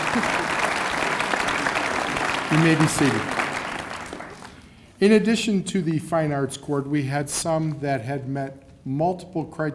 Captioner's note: cheers and applause